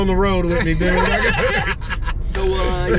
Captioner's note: laughter